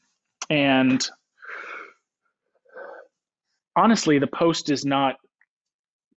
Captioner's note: inhales